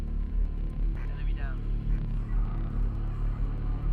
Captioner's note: man Over Radio; deep tense music